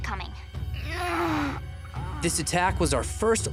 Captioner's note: groaning